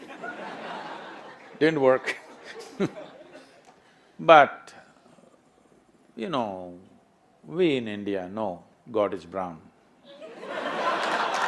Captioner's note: laughter/Applause